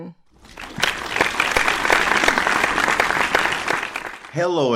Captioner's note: audience applauds